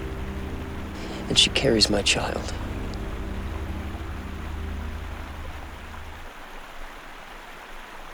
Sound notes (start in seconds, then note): 3.8 water flowing